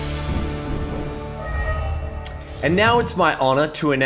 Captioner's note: whooshing